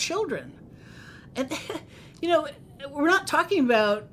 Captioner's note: chuckles